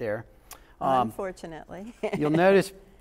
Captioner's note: laughs